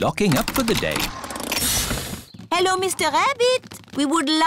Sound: engine stops

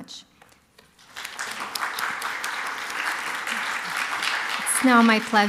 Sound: applause

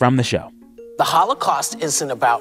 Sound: soundbite of tv show, "the view"

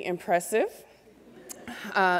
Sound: laughter

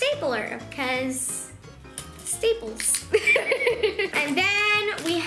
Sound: laughs

